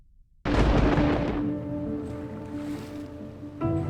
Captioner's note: thunder